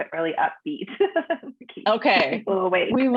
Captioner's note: chuckles